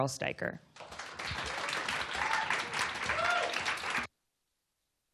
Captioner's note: applause